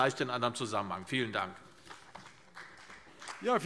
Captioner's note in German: Beifall CDU und BÜNDNIS 90/DIE GRÜNEN